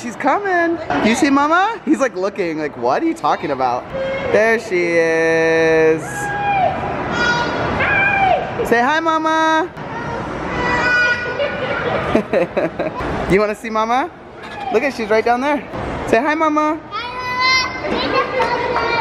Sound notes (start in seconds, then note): 11.9 giggling